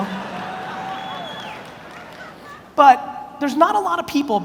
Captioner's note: audience laughs